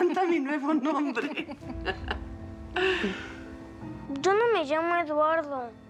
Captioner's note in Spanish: risas